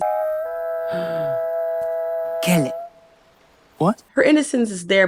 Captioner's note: gasp